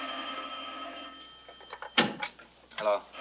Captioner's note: telephone rings